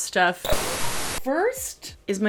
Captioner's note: static